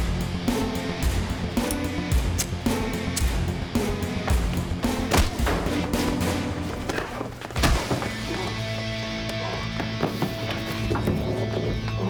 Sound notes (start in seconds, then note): 0.0 action music; 2.2 lighter flicking